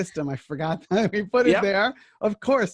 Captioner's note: chuckles